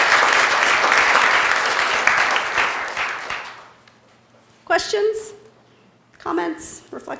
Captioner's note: applause